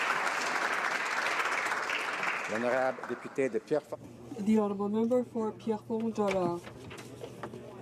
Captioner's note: applause